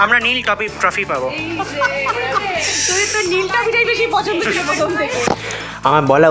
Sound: hysterically laughs

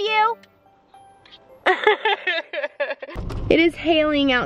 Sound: laughing

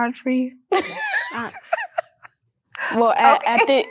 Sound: laughs

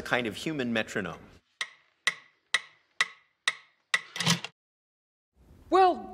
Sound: metronome tik tok

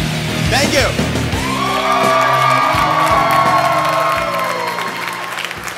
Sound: audience Applause

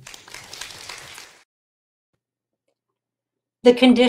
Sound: audience clapping

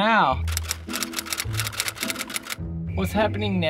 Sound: typewriter keys clicking

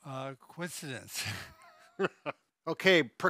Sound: both laughing

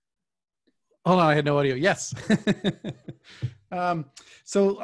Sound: laughs

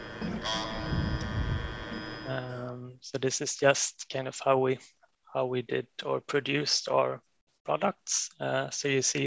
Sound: machine hissing

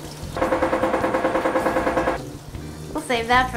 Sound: loud bumping noise

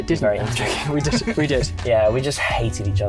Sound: laughs

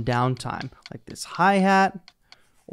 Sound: tapping noises

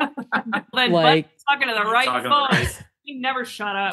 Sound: laughter

